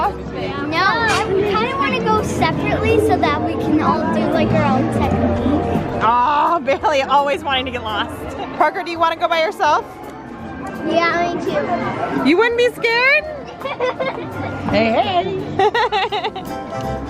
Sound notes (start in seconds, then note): 13.2 laughing